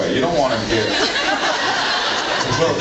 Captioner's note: laughs